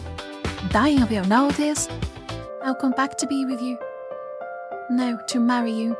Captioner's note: american Accent